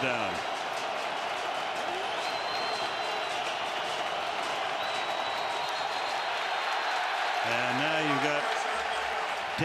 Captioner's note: crowd cheering